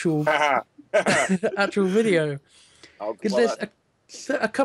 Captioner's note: laughs